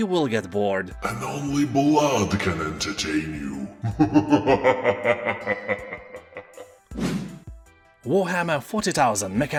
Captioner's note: laughs in demon